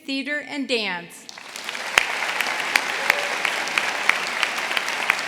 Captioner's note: audience applauding